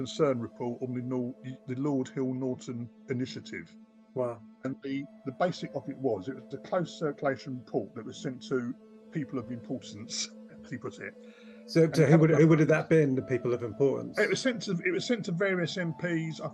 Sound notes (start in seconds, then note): 9.8 chuckles